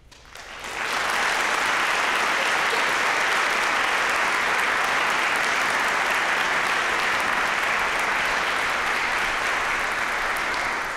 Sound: applause

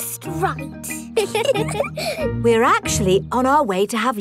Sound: both giggle

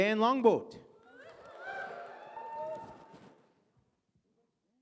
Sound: audience cheers

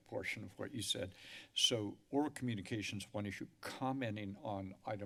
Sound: inhales

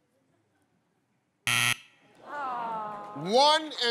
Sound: buzzer

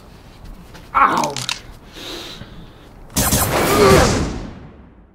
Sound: bone cracks

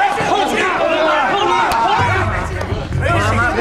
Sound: yelling

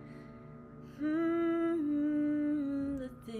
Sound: humming

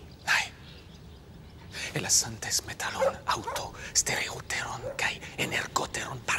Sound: Themistocles speaking in foreign language

